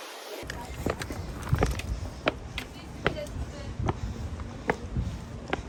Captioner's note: struggling to breathe